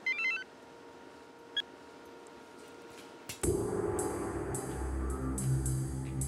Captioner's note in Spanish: Suena celular